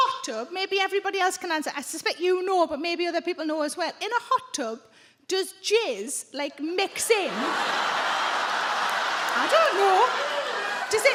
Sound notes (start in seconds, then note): 7.5 audience groans